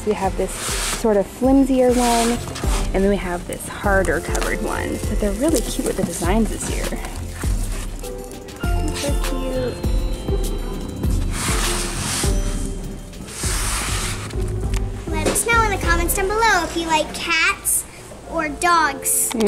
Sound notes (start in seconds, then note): 11.5 binders sliding